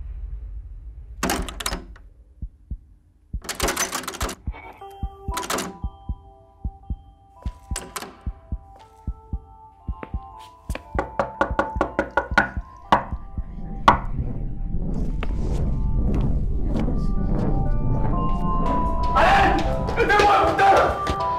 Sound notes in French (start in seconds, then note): 1.1 bruits de poignée de porte; 4.4 musique douce; 7.4 battements de coeur